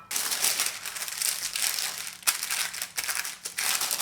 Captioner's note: paper rustling